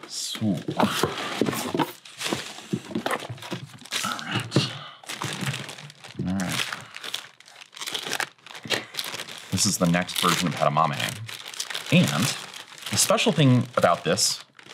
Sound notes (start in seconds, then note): 1.7 package rustling; 5.1 paper rustling; 8.4 paper rustling